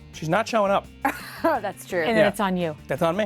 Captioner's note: laughs